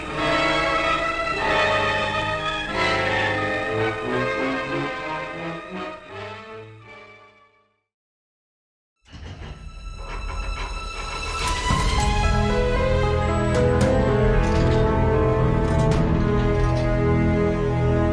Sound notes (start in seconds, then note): 0.0 dramatic instrumental music; 8.4 metallic rattling